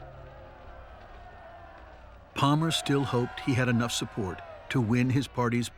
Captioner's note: shouting